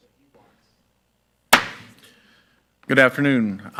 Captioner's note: gavel banging